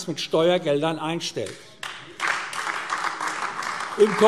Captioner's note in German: Beifall AfD